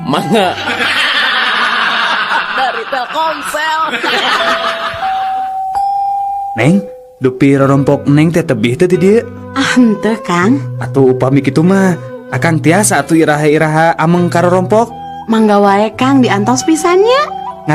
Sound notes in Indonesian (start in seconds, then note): 4.5 tertawa